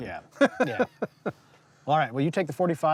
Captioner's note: laughs